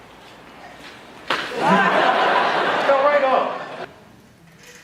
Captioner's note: laughter